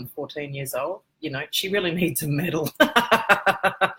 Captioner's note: laugh